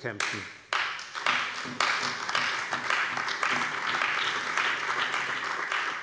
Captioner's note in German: Allgemeiner Beifall